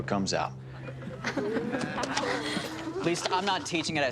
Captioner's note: chuckling